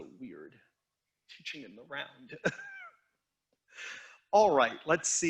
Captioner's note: instructor chuckling